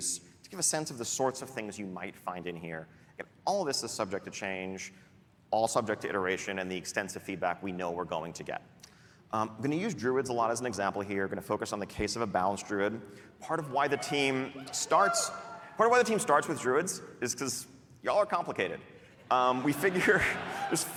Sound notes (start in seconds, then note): 19.4 cheering